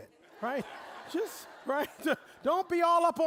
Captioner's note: audience laughing